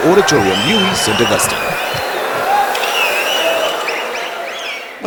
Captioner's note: wild applause and cheering for 22 seconds